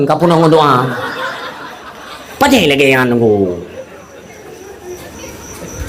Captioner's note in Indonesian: tertawa